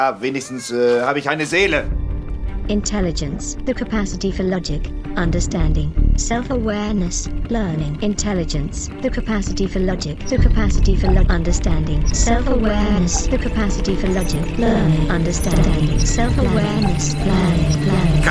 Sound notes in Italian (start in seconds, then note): 12.6 la voce artificiale si fa smorzata; 17.0 voce artificiale sempre più smorzata